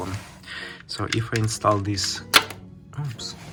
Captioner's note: bus bar pings